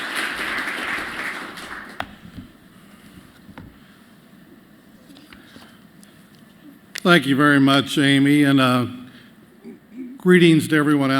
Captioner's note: applause